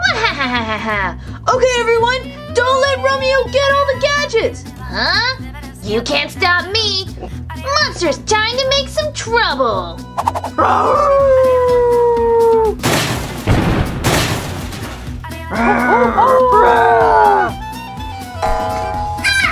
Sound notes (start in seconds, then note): 0.0 laughs evilly; 10.5 monster howls; 12.8 thunderous crashes; 15.5 monsters growling and howling